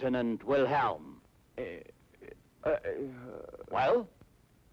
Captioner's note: stuttering